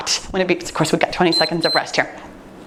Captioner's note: timer beeps